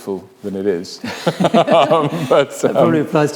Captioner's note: both laugh